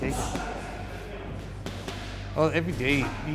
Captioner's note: background gym noise